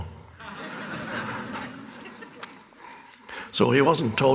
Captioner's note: audience laughing